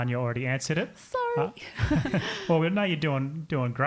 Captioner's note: all giggling